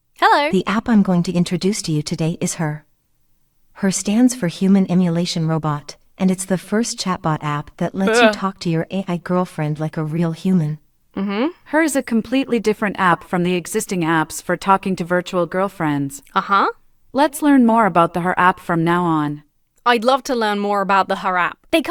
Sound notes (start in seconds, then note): 8.0 shudders